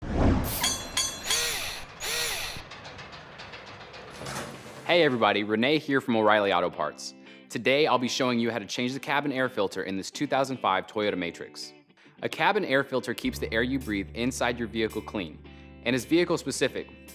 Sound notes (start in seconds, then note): 0.4 mechanical SFX